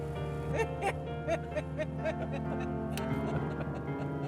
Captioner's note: both laugh